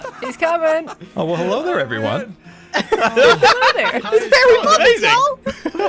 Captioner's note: laughing, shouting over each other